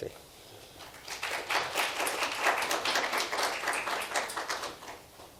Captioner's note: audience applauds